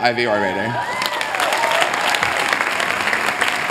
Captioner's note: applause